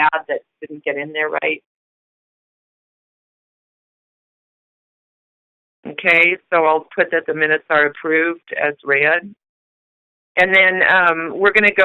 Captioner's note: silence